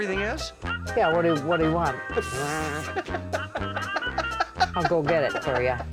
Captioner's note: laughing